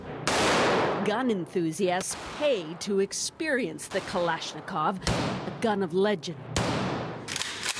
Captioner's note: gunshots